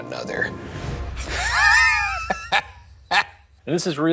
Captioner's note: both laughing